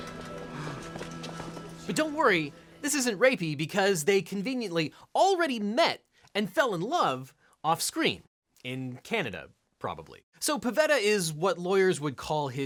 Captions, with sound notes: (Duny gasps) - But don't worry, this isn't rapey, because they conveniently already met and fell in love off-screen, in Canada probably. So, Pavetta is what lawyers would call